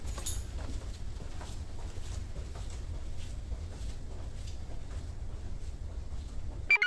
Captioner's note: shoe clops; keys jangle; scrubs rustle